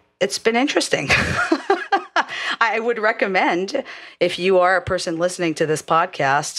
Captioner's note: laugh